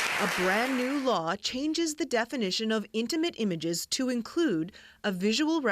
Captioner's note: applause